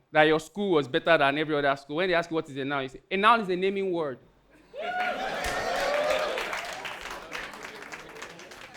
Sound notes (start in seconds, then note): 4.7 audience cheering